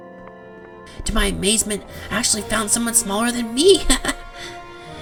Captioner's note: chuckle